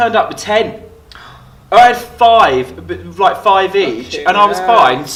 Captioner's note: gasps